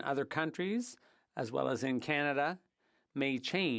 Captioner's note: speaking French